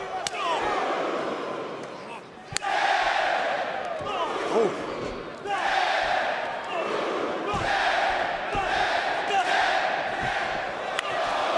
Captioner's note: crowd cheering